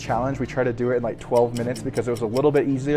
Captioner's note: clock ticking